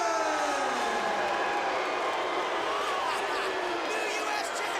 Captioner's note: crowd cheering